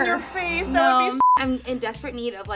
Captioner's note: beep